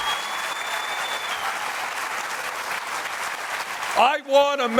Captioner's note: applause